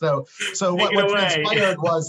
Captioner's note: laughs